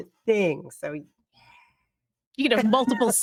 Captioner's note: whispering